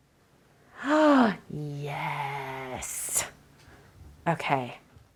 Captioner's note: gasps